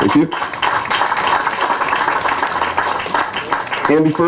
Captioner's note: applause